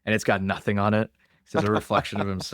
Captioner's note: laughs